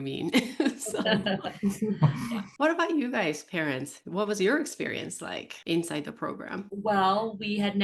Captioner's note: laughs